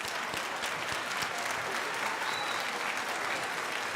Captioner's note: crowd applauding